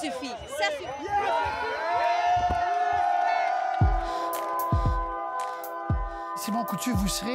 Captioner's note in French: acclamations